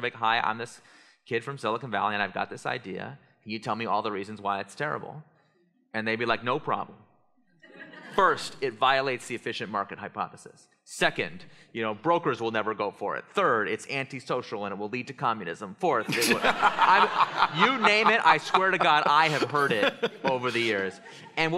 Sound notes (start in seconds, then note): 7.6 laughter; 16.0 laughter